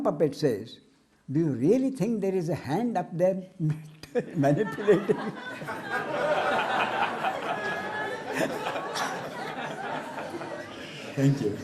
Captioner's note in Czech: smích